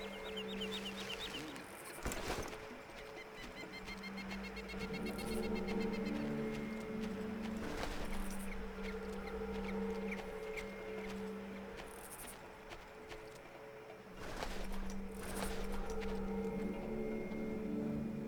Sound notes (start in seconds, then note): 0.0 birds chirping; 9.2 tense music